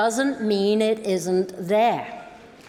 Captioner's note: applause